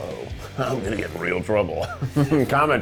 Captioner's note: chuckling